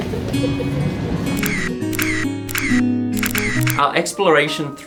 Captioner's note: laughing; camera clicking